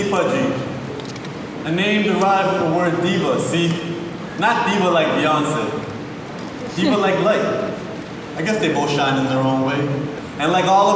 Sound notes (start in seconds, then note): none